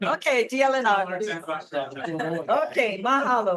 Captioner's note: attendee chattering